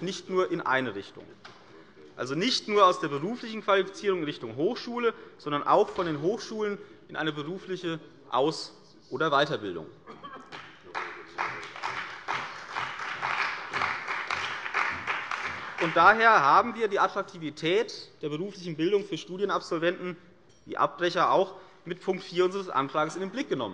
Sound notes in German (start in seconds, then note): 10.4 Beifall bei der CDU und dem BÜNDNIS 90/DIE GRÜNEN